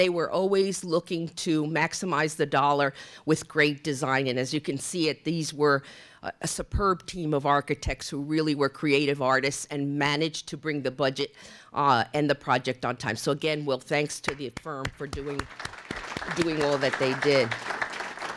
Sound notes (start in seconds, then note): 14.8 applause